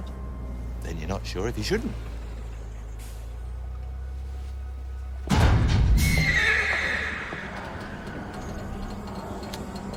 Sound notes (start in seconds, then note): 5.3 metal clanks; 6.0 horse neighs